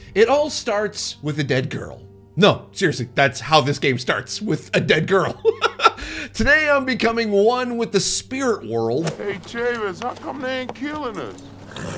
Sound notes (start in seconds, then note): 5.2 laughs; 11.6 horse neighs